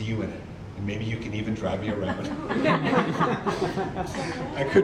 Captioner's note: audience laughter